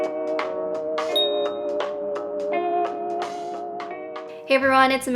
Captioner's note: light dings